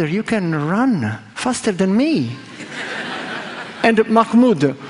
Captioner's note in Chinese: 笑聲